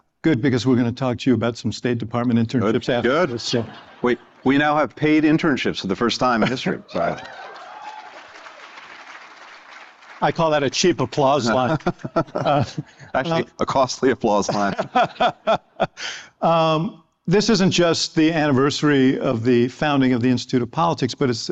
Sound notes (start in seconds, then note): 4.8 laughter; 7.0 applause; 11.4 laughter